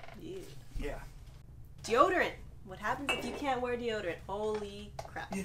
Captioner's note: glass clinks